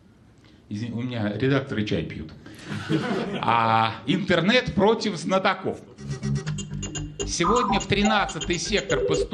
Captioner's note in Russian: смех